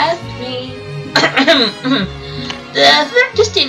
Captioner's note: coughs